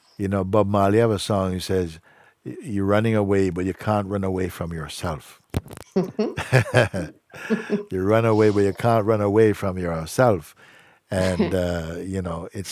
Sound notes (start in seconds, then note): 6.0 laughter